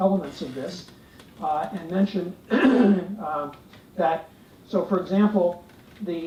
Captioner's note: cough